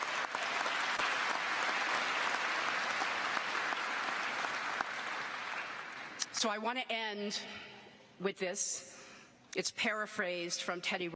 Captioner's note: applause